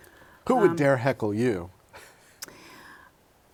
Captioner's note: laughter